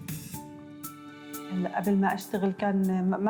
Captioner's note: non-english speech